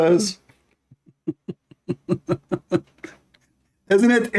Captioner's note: Ketawa